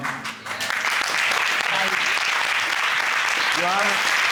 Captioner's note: courtroom applauding